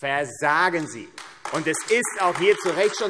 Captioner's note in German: Beifall AfD